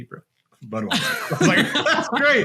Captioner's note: both laughing